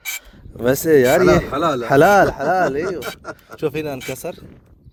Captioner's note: Arabic